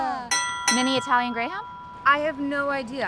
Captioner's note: bell dinging